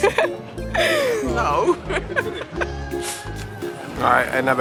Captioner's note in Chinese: 笑声